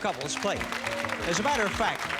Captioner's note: applause